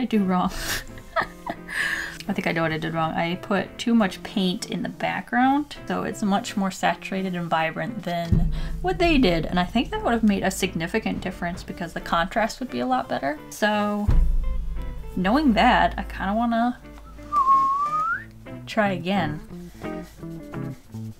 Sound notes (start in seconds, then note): 17.0 whistles